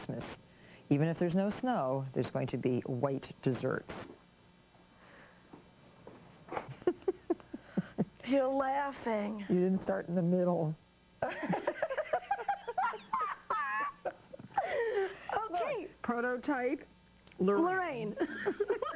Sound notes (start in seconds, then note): 3.9 Martha snickers; 9.9 laughs; 11.2 laughter